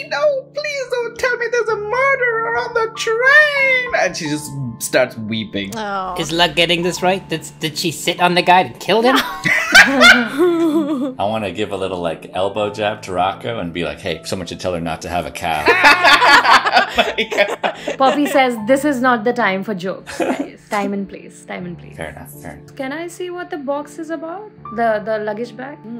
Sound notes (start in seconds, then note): 9.1 laughter; 15.6 laughter